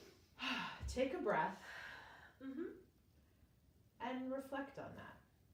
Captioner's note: breathes deeply